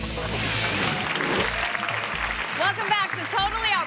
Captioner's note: audience applauds